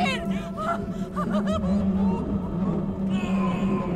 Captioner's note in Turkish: Ağlama sesi